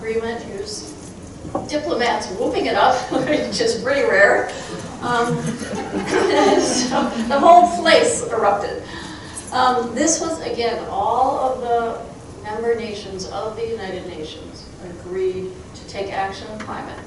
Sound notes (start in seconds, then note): 4.7 chuckling